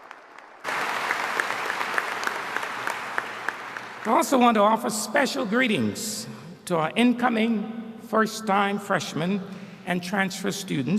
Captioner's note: applause